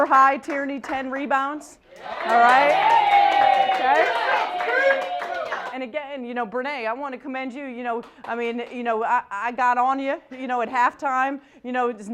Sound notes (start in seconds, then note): 1.9 cheering